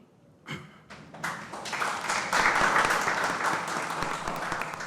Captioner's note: audience applauding